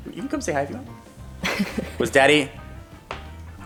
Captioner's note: laughs